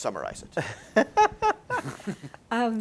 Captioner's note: laughter